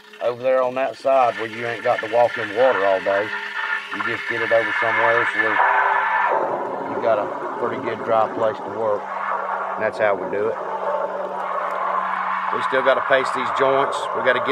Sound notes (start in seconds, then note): 4.0 speaking faintly